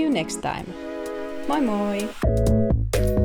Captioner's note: in Finnish